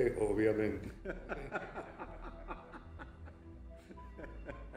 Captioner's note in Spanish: Risas